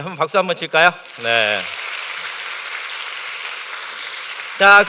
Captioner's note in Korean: 박수